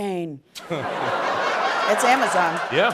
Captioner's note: laughter